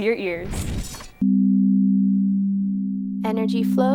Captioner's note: tones